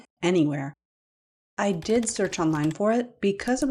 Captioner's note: clickety-clacks of keyboard; click